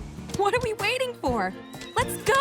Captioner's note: horse whinnies